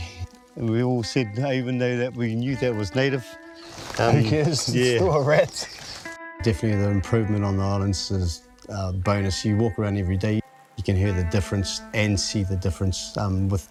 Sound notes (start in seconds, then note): 3.6 laughs